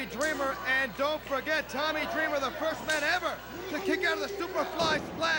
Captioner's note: crowd chatter